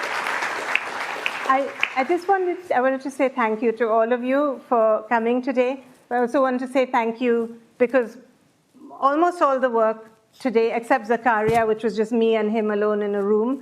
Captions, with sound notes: [APPLAUSE] I just wanted to say thank you to all of you for coming today. I also want to say thank you because almost all the work today except Zakaria which was just me and him alone in a